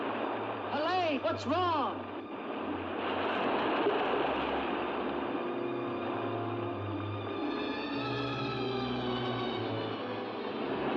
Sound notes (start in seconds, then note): 2.4 waves crashing; 6.2 suspenseful music; 10.7 waves crashing